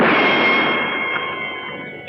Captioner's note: gunshot